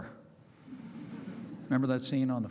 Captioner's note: laughter